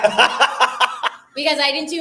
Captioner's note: laughs